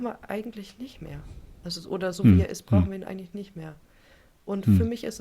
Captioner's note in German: räuspern